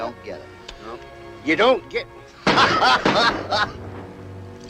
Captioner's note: gunshots